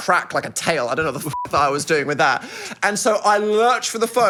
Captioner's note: beep